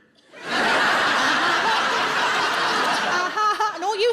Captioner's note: audience laughs